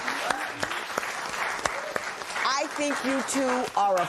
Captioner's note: applause